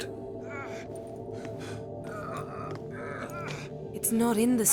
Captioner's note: straining with exertion